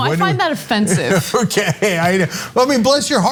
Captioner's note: laugh